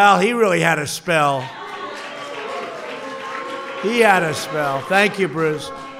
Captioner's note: applause